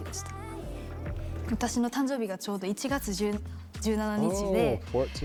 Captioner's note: speaking in foreign language